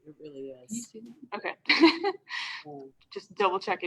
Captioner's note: laughs